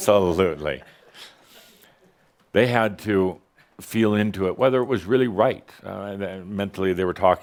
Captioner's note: a few chuckles